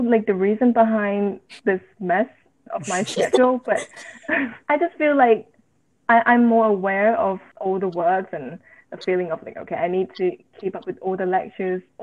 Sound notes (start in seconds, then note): 3.7 laughter